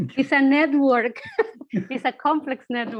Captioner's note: chuckling